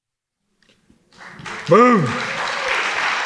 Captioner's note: audience applauding